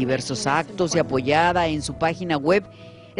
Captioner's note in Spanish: habla en ingés